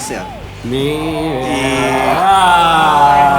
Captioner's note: laughter and applause